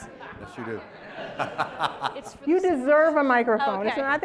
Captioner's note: laugh